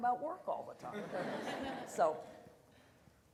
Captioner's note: audience laughter